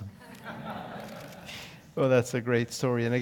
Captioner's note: laugh